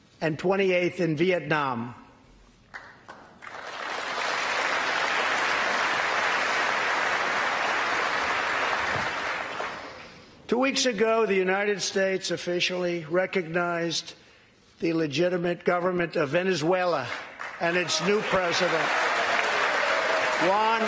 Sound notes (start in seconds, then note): 6.7 applause